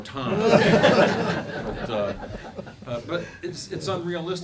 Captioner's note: laughing